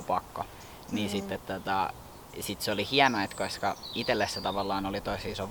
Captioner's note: small birds chirping